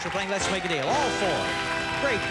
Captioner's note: cheers and applause